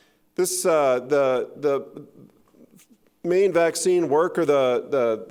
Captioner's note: none